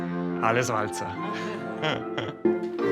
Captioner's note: laughter